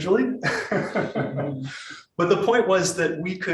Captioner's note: laughs